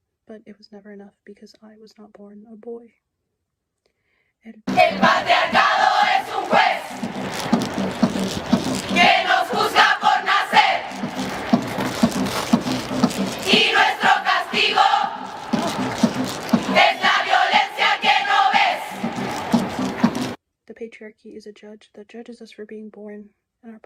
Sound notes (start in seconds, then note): 5.2 non-english speech